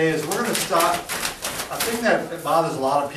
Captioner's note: theraband flapping